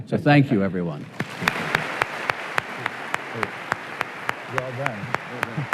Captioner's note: applause